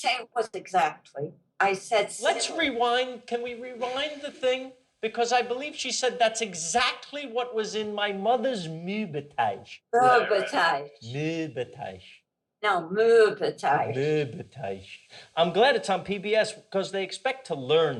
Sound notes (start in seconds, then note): 11.8 parents laughing